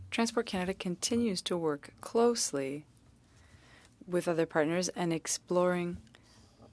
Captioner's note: speaking French